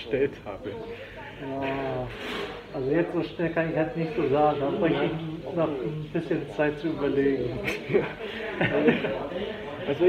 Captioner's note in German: Alle lachen